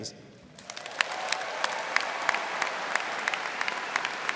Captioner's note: crowd clapping